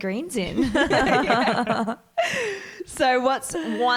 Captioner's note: all laugh